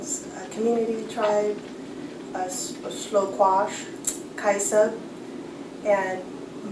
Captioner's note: non-english